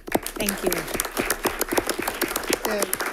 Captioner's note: applause